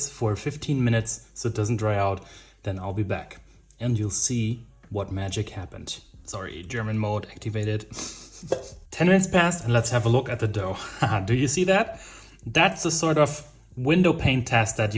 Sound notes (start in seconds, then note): 8.1 laughing